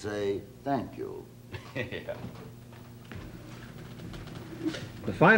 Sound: chuckling

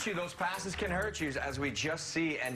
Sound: applause

